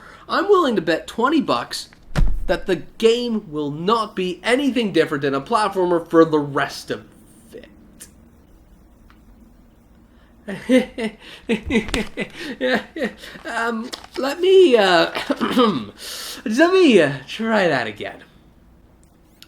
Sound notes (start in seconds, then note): 10.5 nervously laughs